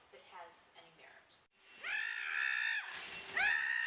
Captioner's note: loud vacuum sounds